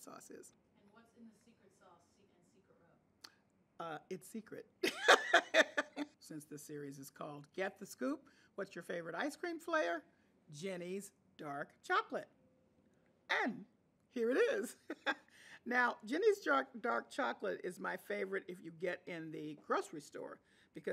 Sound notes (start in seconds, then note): 4.8 laughing; 14.3 chuckles